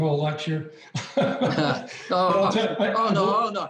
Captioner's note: people laughing